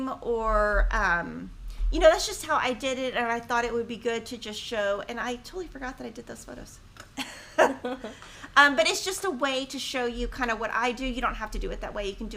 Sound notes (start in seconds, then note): 7.2 laughing